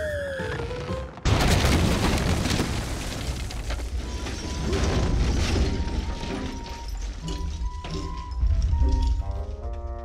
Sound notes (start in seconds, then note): 5.5 clattering